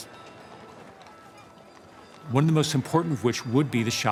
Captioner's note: people chattering